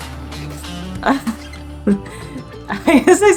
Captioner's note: background music; chuckles; laughing